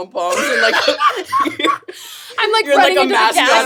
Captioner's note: all laughing